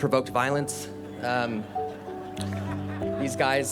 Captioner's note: attendees laughing